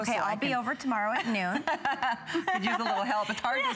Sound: laughter

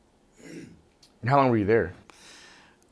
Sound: staff clears throat

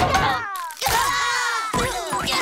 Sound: screaming

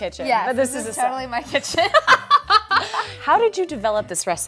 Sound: laughing

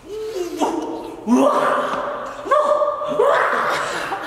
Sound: roaring noises

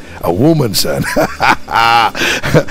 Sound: laughing

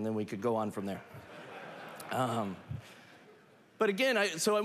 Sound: laughter

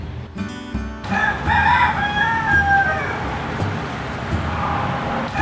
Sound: rooster crowing

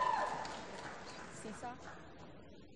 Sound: applause

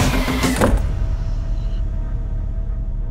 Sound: door closes

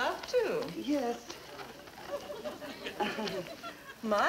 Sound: audience laughing

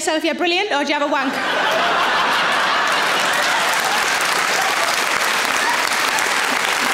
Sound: audience laughing; audience applauds

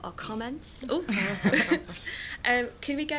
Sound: laughter

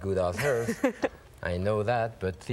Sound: laughing

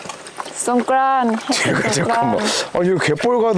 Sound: laughing

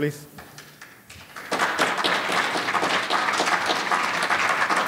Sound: audience applauding

